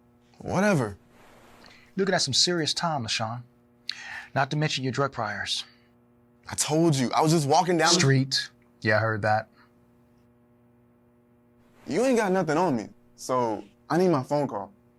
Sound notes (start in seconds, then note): none